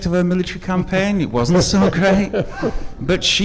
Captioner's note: panelists laughing